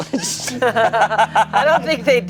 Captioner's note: group laughs